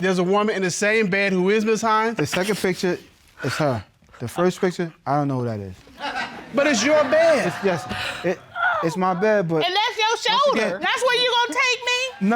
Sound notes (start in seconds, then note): 6.0 audience laughing